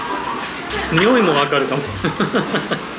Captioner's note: choked